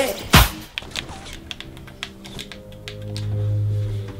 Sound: gaming noises

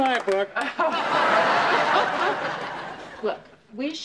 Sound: laughs

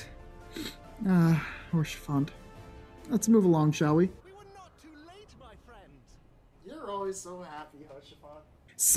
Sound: sniff

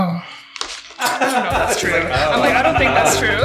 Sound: laughs

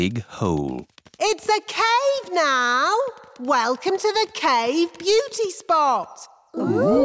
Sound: echoing

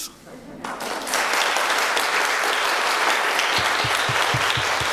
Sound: applause

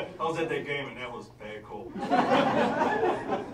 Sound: laughter

